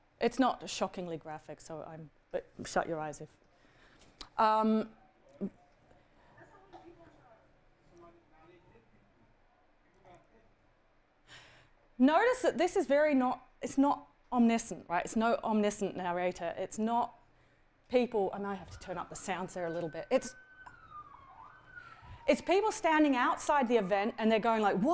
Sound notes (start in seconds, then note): 20.5 siren blaring